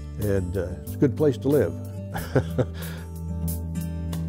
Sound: laughing; light acoustic guitar music

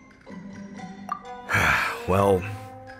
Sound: sigh

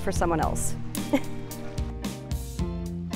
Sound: laugh

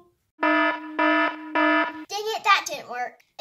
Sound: alarm sounding

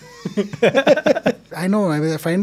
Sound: both laughing

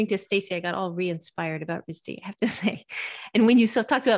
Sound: sighs

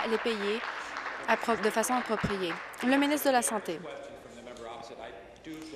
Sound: applause

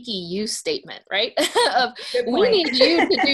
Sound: laugh

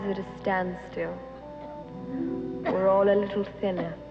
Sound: Margot coughing

